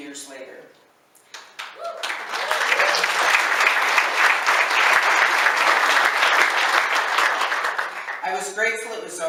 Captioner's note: applause; wooo!